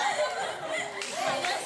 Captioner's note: laughter